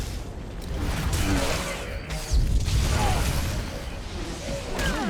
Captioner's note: gunshots